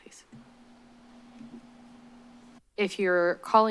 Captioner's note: silence